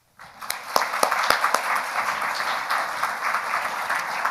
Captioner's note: audience applauding